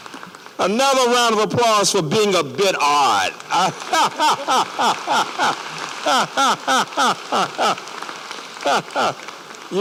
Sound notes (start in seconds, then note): 0.0 applause; 3.2 applause; 3.5 laughter